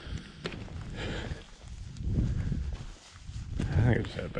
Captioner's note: footsteps thumping